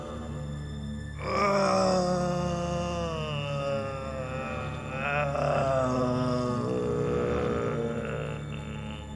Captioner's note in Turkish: Bağırma sesi